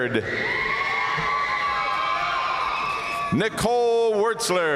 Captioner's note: audience cheering and applauding